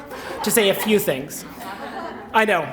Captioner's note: laughter